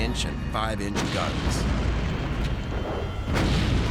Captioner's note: gunfire